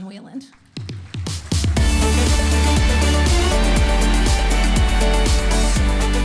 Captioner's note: audience applauding; upbeat cheerful music